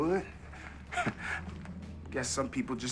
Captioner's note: chuckles